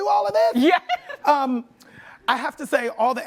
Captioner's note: laughs